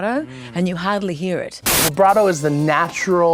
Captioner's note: static hissing